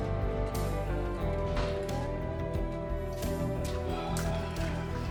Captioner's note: door shuts; sighs